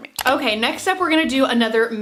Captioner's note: mouse clicking